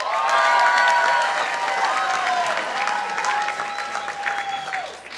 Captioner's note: participants applauding